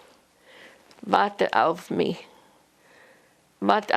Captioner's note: german